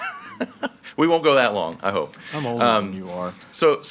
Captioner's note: laughs